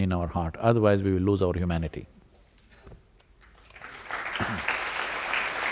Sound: applause

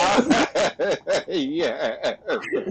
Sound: laughs

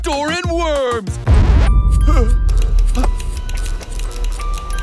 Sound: vinyl scratches

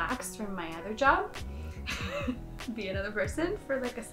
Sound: laughing

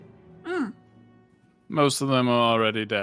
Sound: grunts

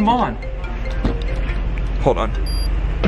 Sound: phone ringing

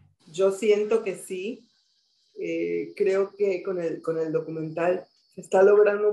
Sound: speaking in foreign language

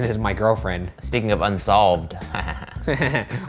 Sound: laughs

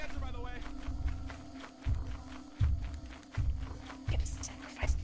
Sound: footsteps; whispering

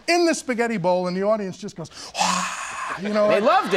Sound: mocks cheers

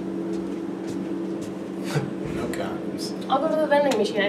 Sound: air conditioner humming; scoffs

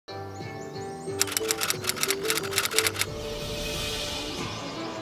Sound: mellow music; typewriter clicks

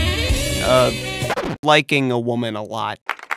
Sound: vinyl record scratch

